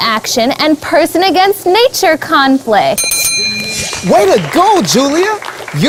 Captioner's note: bell sound